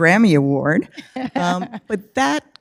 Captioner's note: laughs